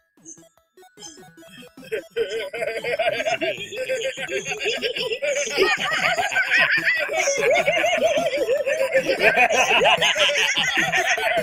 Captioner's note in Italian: risate deliranti